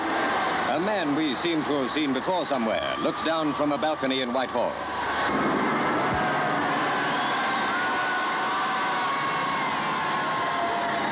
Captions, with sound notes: A man we seem to have seen before somewhere looks down from a balcony in Whitehall. (crowd cheers)